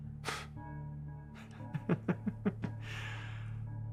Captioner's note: Bailey laughs